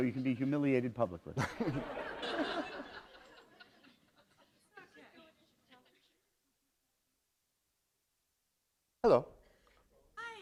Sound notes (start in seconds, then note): 1.3 laughter